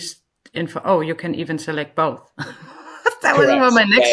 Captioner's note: laughs